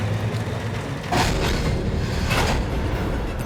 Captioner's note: thumping